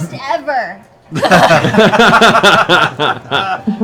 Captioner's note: laughter